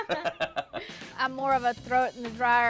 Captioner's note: both laugh